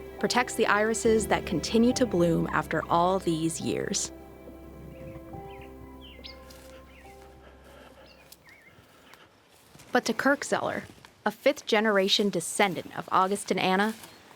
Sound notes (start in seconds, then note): 4.4 birds chirping; 4.4 gentle music